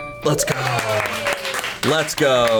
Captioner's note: colleagues applauding